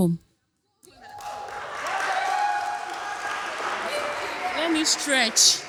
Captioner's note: applause